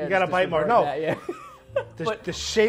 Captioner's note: laughs